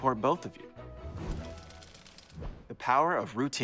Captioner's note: gears whirring